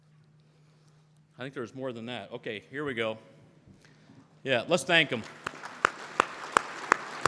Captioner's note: crowd Applause